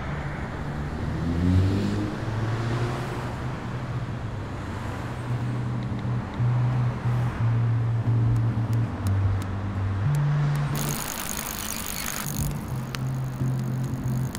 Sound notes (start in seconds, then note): 8.6 tapping; 10.7 bicycle chain clanks